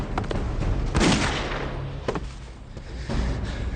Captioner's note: gun shot fires; suspense music